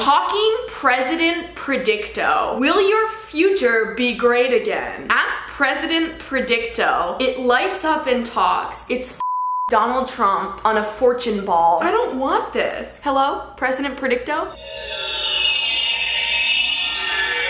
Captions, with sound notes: Talking President Predicto. Will your future be great again? Ask President Predicto. It lights up and talks. It's (beep) Donald Trump, on a fortune ball. I don't want this. Hello? President Predicto? (whirring)